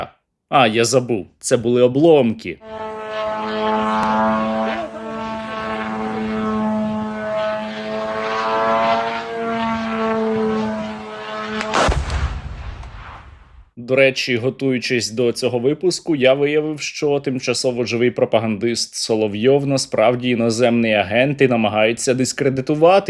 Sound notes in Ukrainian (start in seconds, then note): 2.6 звук дрона; 11.3 вибух